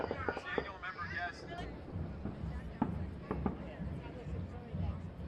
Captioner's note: people chatting